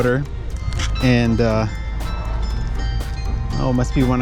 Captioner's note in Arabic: دقات جرس الكنيسة